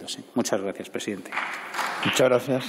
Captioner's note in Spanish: Aplausos